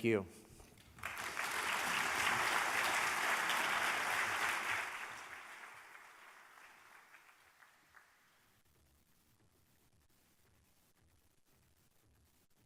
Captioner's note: applause